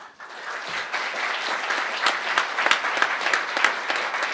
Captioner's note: crowd applauding